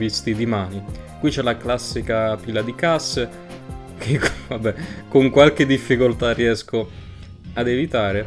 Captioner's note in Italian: risatina